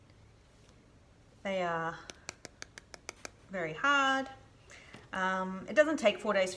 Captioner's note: tapping